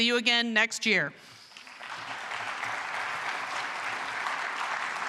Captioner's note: applause,music playing